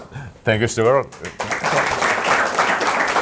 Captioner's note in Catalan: Aplaudiments